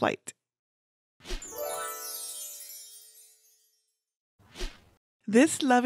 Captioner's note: chimes twinkling